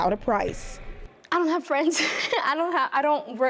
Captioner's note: laughs